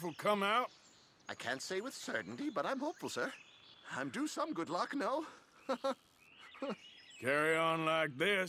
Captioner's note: laughs but then sobs